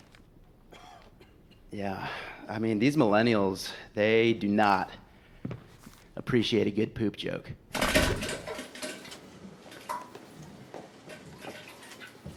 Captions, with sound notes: [man coughs] Yeah. I mean these millennials, they do not appreciate a good poop joke. [splattering]